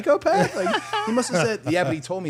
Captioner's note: participants laughing